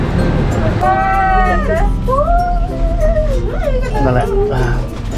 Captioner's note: shouting